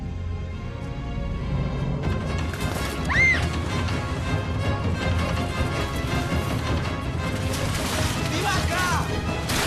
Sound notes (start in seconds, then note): 3.0 shrieks; 8.4 shouts